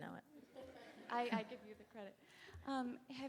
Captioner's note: audience laughing